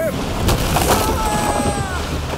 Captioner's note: sailors yell